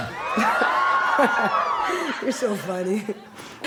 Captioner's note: audience whoops